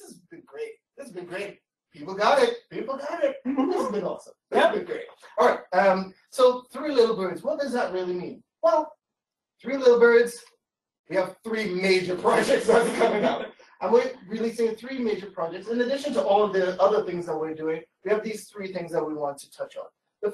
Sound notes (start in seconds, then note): 12.4 laughter